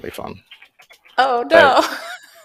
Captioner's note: laughing